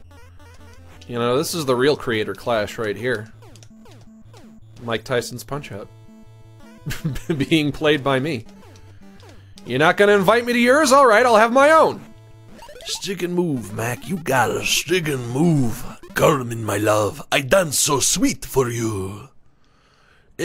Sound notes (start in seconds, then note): 6.8 laughs; 12.4 gravelly voice; 15.8 foreign accent